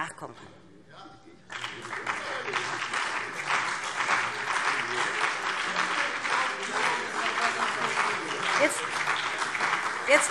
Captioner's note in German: Beifall BÜNDNIS 90/DIE GRÜNEN und vereinzelt CDU